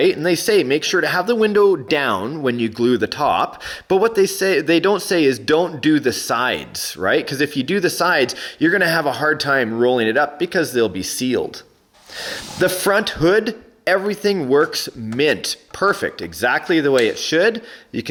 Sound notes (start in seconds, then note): 16.4 snap